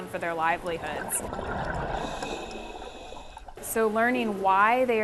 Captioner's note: bubbling water